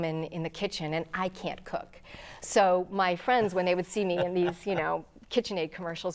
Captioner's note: laughing